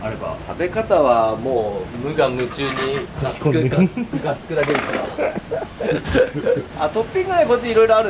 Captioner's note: laughs